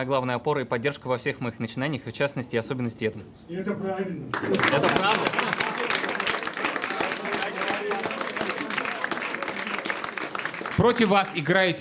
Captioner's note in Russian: аплодисменты